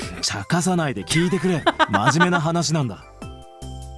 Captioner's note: chuckles